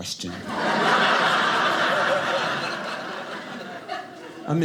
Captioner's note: audience laughing